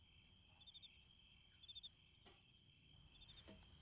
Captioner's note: crickets chirping